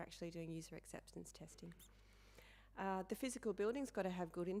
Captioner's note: none